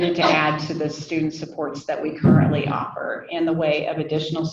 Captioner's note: none